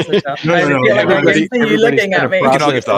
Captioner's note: indistinct chattering